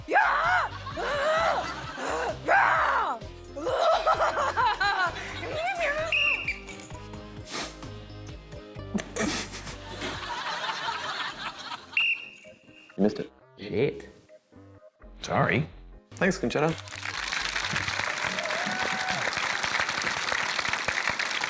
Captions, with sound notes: Yah! Uh! Yah! Uhhh! (LAUGHS, MURMURS) (BLOWS WHISTLE) (CHORTLES) (LAUGHTER) (BLOWS WHISTLE) You missed it. Shit. Sorry. Thanks, Concetta. (CHEERING, APPLAUSE)